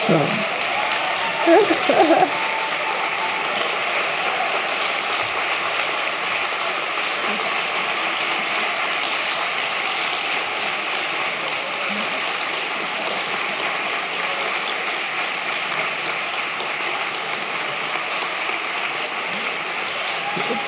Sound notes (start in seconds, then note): 7.7 applause